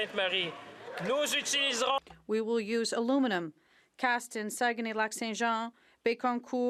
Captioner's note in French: voix de l'interprète